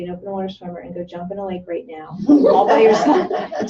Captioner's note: laughter